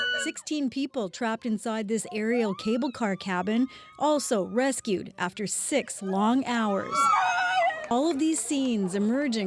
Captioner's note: crying